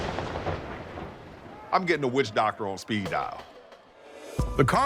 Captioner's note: thunder cracks